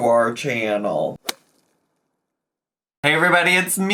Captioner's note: logo thuds